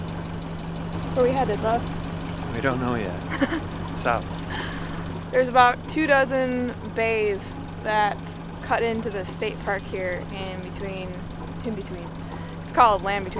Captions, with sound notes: (boat halyards clanging) - We've got a straight up wind chime going here. Nobody knows how to secure their halyards, apparently.